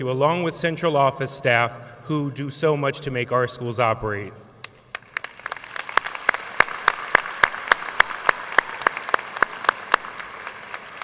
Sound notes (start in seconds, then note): 4.9 audience applauding